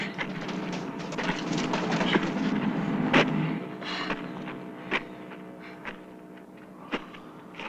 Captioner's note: kicks - footsteps